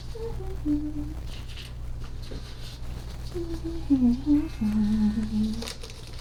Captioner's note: sweet humming